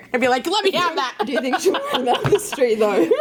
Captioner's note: laughs